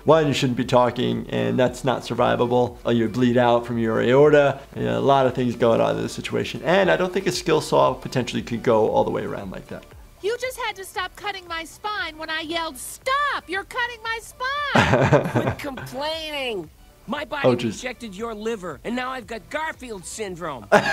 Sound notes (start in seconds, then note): 14.8 chuckling; 20.7 laughing